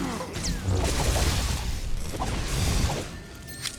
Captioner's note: gunshots